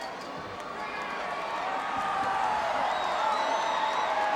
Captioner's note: audience cheering